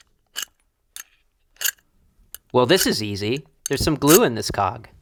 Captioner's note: tinkering sounds